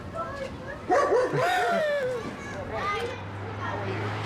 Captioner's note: laughing